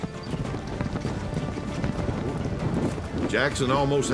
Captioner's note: galloping